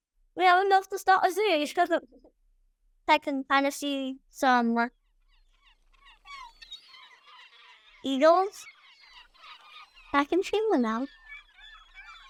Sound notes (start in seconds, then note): 5.4 seagulls squawking